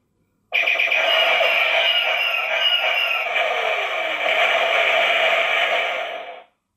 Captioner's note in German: Battle Sounds